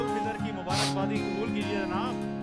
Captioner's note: Jannat sniffs